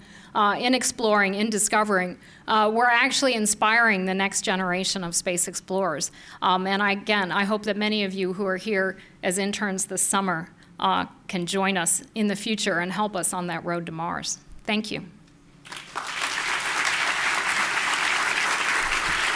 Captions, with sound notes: IN EXPLORING, IN DISCOVERING, WE'RE ACTUALLY INSPIRING THE NEXT GENERATION OF SPACE EXPLORERS. AND, AGAIN, I HOPE THAT MANY OF YOU WHO ARE HERE AS INTERNS THIS SUMMER CAN JOIN US IN THE FUTURE AND HELP US ON THAT ROAD TO MARS. THANK YOU. [applause]